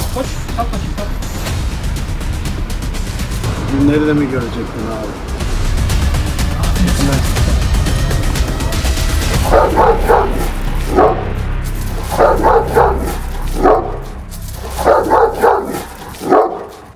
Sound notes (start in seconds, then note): 1.3 tension music; 5.4 tension music; 9.4 barking sounds and tension music